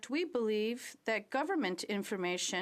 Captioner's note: speaking French